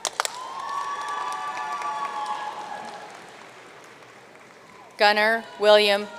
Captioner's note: audience cheering and applauding